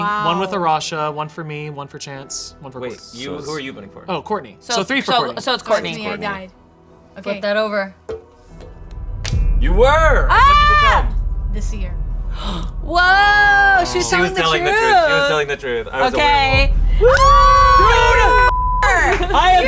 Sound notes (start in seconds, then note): 10.7 shouting; 16.9 group shouting; 18.5 beep